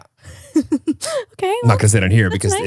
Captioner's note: laughs